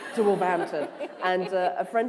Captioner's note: laughter